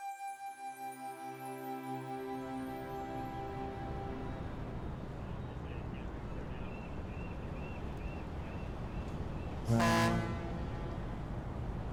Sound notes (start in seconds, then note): 1.1 upbeat orchestra music; 4.8 seagulls; 9.5 boat horn